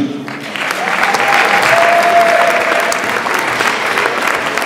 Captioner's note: audience applauds